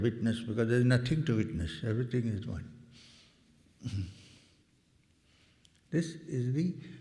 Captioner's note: clears throat